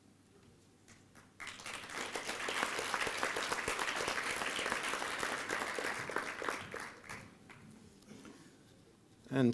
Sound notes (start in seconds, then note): 3.4 applause